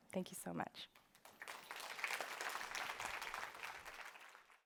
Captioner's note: applause